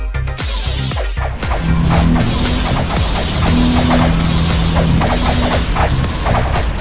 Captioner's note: swords crackling; swords whooshing